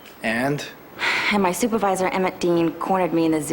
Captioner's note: sighs